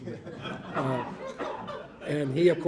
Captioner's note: audience laughing